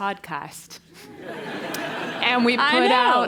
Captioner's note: laugh